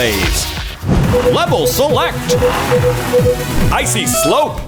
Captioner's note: beeping